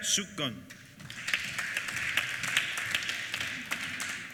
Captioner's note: applause